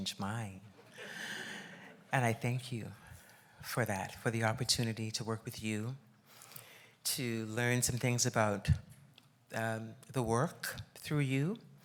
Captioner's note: laughs